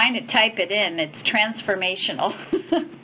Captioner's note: laughs